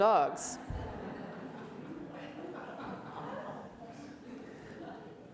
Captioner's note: audience laughs